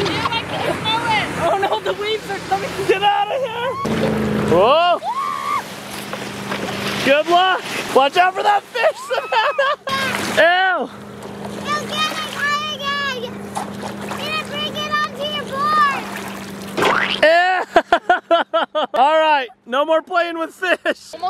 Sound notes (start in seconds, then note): 5.0 all shouting; 8.4 laughing; 17.1 laughing